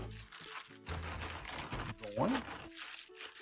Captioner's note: plastic bag crinkling